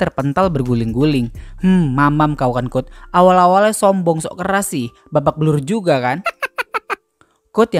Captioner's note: laughs